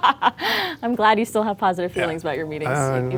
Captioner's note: laughs